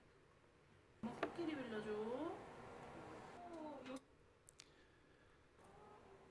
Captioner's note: speaking in foreign language